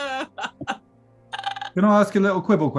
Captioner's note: laughing; croaks